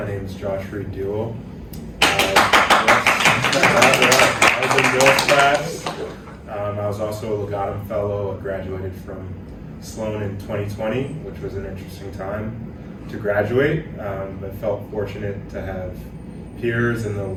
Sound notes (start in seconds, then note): 2.0 applause